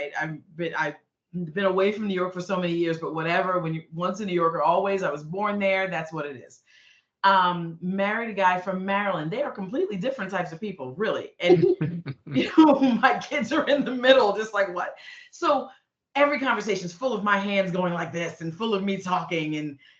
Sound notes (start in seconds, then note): 11.4 chuckling